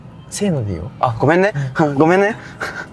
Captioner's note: laughs